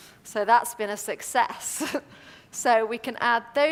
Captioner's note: laugh